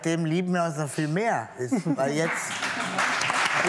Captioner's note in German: Applaus